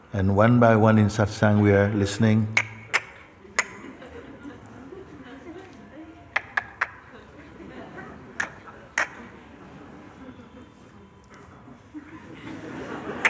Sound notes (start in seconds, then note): 2.9 imitates clicking sounds; 11.8 laughter